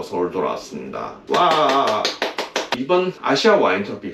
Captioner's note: clap clap clap